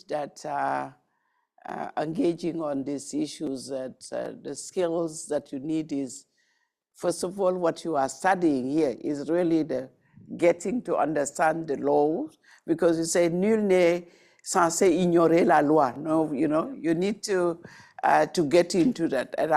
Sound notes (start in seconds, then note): 13.2 speaking in foreign language